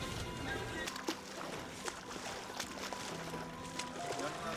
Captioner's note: swim splashing